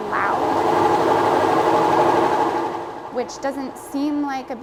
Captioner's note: washer whirs loudly